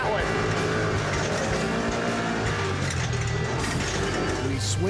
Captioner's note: motor revving